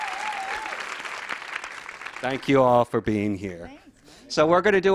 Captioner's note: applause